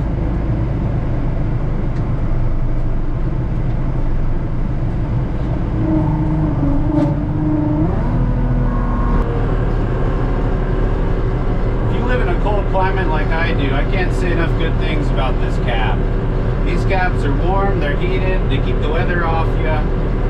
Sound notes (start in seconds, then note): 0.1 engine humming; 6.0 tractor whirring